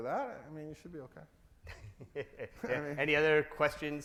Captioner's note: laughs